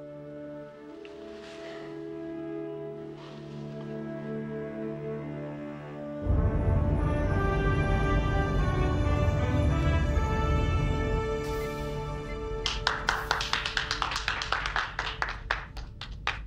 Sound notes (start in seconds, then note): 5.9 Picard and Wesley enter to a round of applause